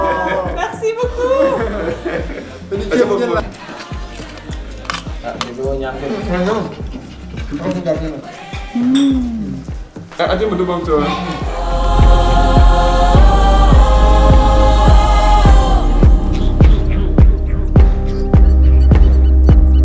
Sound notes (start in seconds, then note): 1.9 talking; 11.7 african music is playing